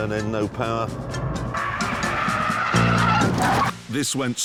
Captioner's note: tyres screech – crunch